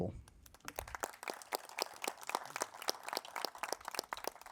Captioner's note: crowd applauding